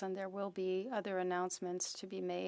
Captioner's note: speaking French